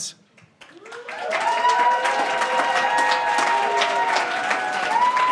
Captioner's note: audience applauding